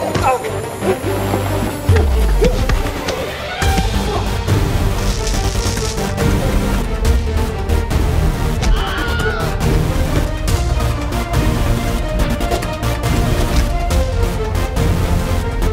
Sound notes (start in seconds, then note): 0.1 thudding; 5.1 electrical zapping; 8.6 man shrieks; 8.6 thudding